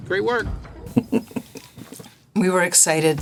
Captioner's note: laughing